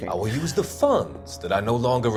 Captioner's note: laughs